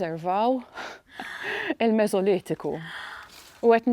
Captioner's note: giggles; gasps